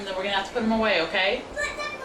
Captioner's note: whining